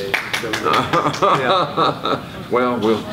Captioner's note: off-camera applause; laughs